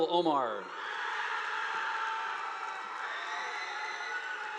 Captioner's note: audience applauding